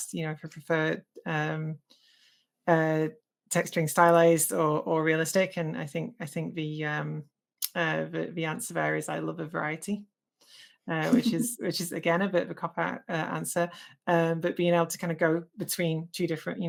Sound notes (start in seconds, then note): 11.0 laughs